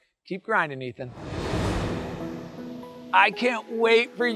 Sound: graphics whooshing

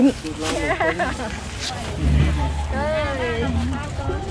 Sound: laughing

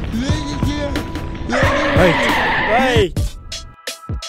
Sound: brakes screech

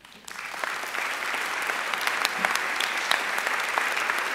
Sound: audience applauding

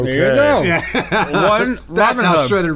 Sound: laughing

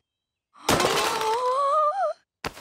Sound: gasping

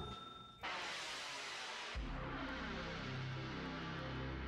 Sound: logo sound

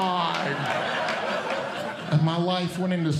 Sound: audience Laughing

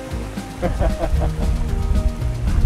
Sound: laughter

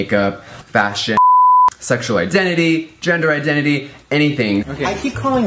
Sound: beep

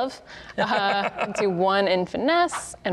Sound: laughing

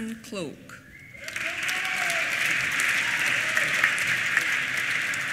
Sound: applause

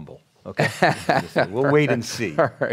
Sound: laughs

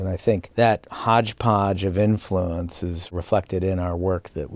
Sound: none

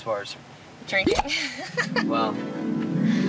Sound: laughs; harp music

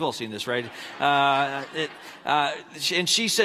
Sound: laughing

